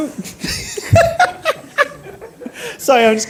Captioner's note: she laughs